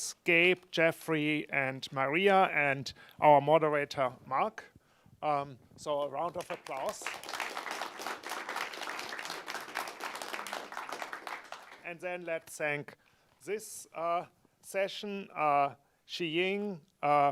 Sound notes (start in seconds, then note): 6.4 audience applause